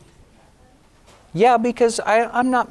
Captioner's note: speaking off mic